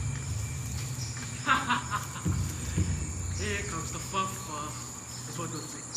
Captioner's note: laughing